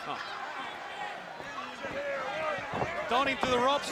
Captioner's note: crowd chatter